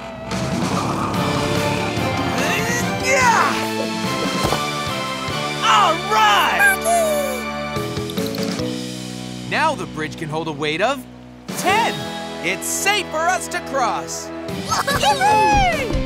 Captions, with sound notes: [grunting] - Alright! - Sparky! Now the bridge can hold a weight of ten. It's safe for us to cross. [cheering]